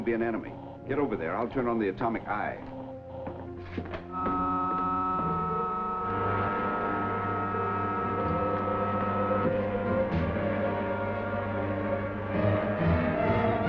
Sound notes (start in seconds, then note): 3.9 intense music; 4.1 loud buzzer